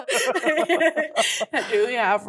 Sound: laughs

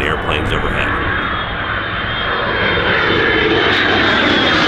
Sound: planes buzzing

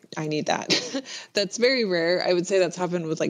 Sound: laughs

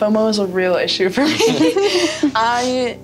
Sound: all laugh

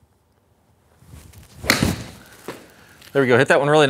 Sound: ball thwacks

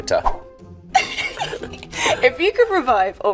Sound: laughing

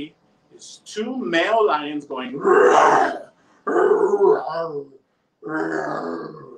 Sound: roars

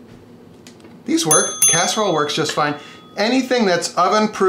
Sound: dinging

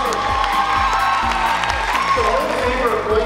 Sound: excited applause

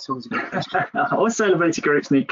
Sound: laughs

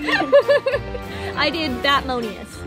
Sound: laughs

